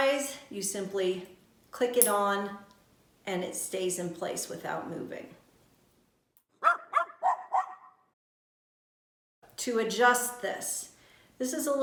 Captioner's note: little dog barks